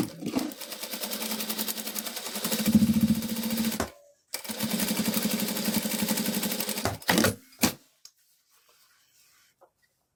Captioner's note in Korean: 미싱소리